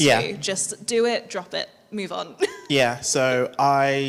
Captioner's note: chuckles